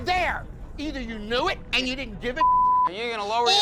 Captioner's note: beep